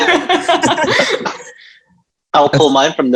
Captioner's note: group laughing